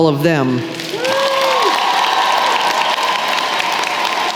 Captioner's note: applause